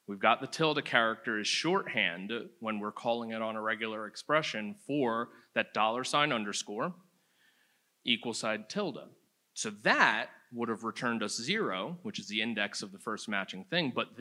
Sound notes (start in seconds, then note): none